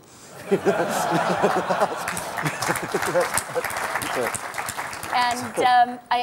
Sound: applause

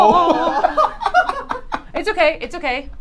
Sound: all laugh

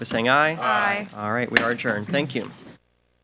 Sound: gavel bangs

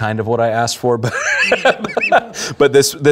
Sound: laughing

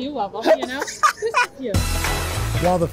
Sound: laughter

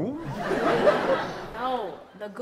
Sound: audience laughs

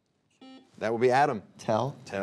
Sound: buzzer beeping

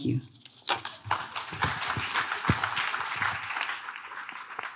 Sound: audience claps

